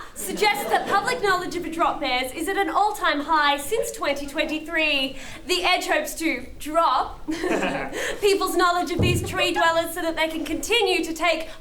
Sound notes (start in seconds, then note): 7.3 chuckle